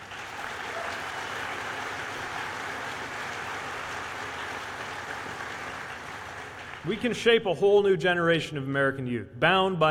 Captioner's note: applause